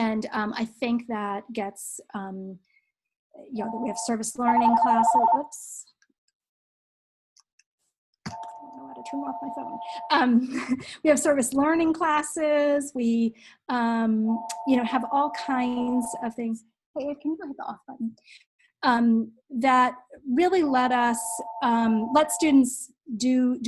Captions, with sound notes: And I think that gets-- we have service learning classes. [PHONE RINGING] Oops. I don't know how to turn off my phone. We have service learning classes. We have all kinds of things-- hey, can you hit the Off button? --that really let students